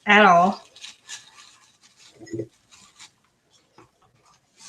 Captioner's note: light shuffling